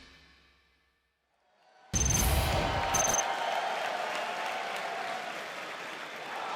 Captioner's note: cheers and applause